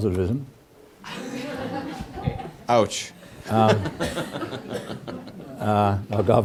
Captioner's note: laugh